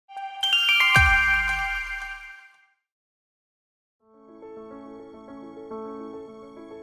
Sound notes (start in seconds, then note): 0.1 chiming; 4.1 piano music